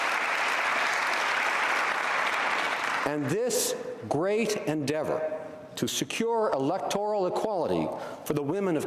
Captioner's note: applause